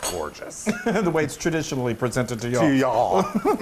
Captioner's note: laugh